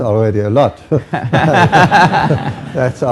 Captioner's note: laughter